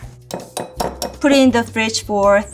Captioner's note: glass clinking